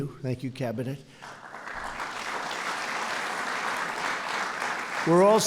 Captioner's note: applause